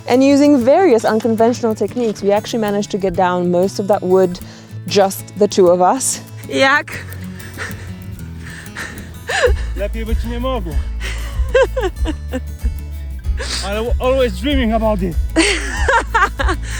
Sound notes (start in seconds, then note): 10.0 man speaking in foreign language; 10.8 person laughing